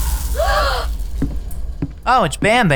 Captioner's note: all gasp